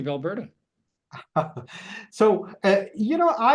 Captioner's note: laughing